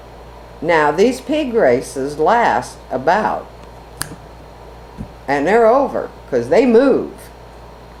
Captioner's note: snaps